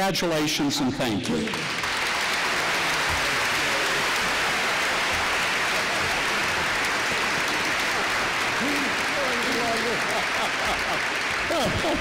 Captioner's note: applause